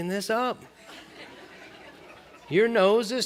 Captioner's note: laughter